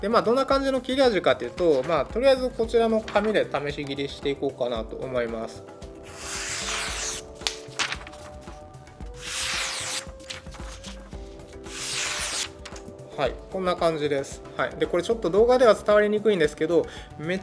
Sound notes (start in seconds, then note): 6.0 the sound of cutting paper